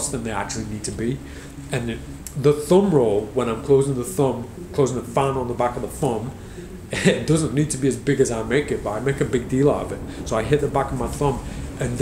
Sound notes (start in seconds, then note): 6.9 laughs